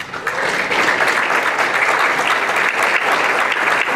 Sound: applause

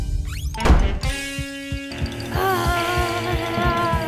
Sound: playful music; door slamming; groaning

